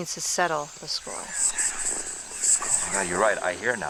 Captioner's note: ghost Voices Whispering Recording Plays